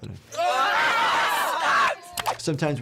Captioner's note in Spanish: los niños gritan